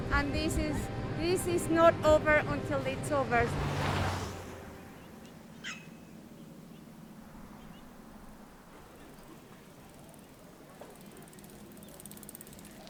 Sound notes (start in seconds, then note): 3.3 car engine fading away; 6.1 birds chirping; 9.3 bicycle passing